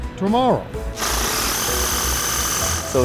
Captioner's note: drill spinning